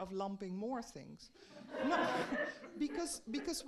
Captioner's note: audience laughing